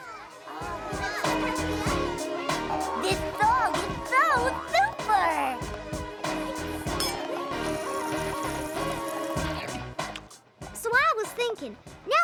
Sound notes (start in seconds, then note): 0.2 up-tempo music plays; 4.3 glasses clink; 6.3 slurping